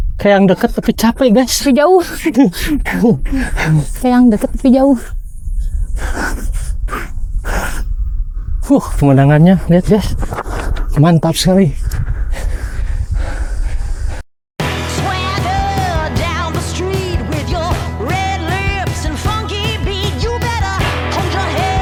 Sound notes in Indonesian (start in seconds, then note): 7.3 tertawa; 11.8 terengah-engah